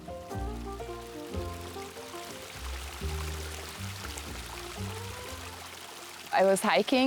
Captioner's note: sound of a stream